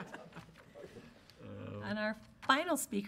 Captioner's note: laughing